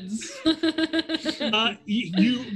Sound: laughs

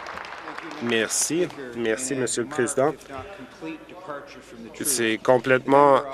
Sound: applause

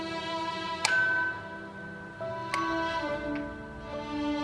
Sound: doorbell ringing

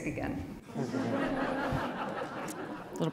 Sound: laughter

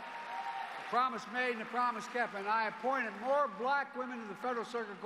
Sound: cheers and applause

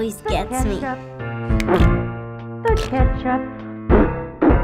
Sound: blowing raspberries

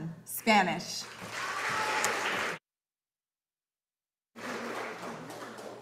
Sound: audience applauding

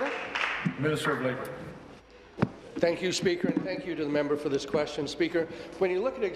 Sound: applause

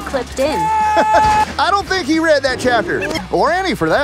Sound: laughing

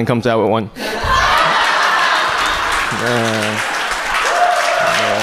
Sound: audience cheers

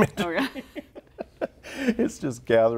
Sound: laughs

